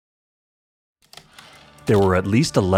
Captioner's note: heavy typewriter keystrokes, return slide